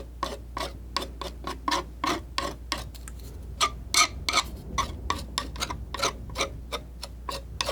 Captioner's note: scratching